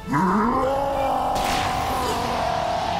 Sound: Heatran roars loudly

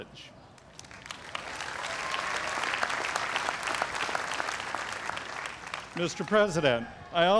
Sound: applause

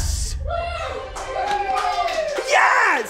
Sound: applause

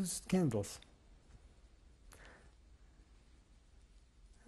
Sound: pauses for 3 seconds

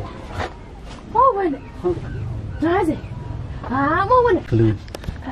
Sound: locals speak to one another

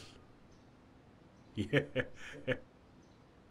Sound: laughs

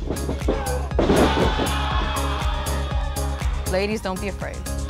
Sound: smacks; crowd cheers

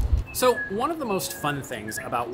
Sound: birds chirping

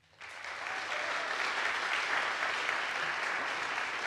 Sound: audience applauds

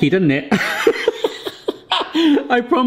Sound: laughs

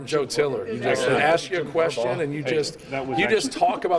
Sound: laughter

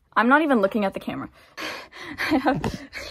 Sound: laughing

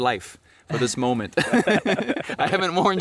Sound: both laughing

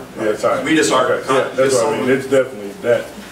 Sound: overlapping chattering

